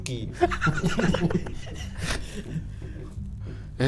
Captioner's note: giggling